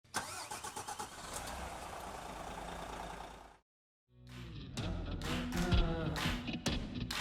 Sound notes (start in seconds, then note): 0.2 car engine roaring; 4.2 upbeat music